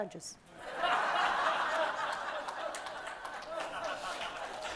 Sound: audience laughs

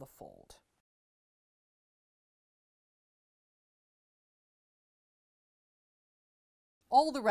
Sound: no Sound Present

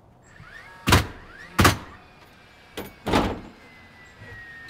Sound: nails banging loudly

